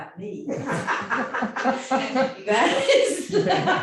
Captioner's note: audience laughing